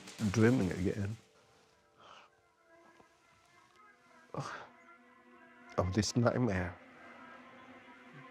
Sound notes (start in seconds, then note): 4.1 Huấn snivels